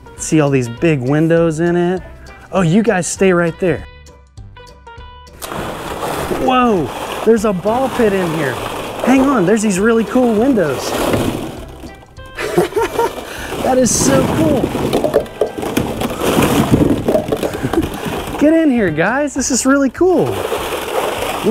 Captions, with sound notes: See all these big windows in it? Oh, you guys stay right there. (balls swooshing) Whoa. There's a ball pit in here. Hang on. There's these really cool windows. (laughs) That is so cool. (balls ping-ponging) Get in here guys. This is really cool.